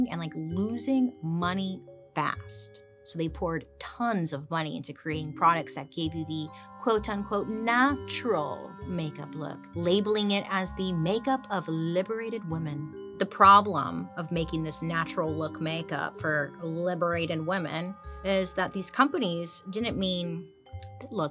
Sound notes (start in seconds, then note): none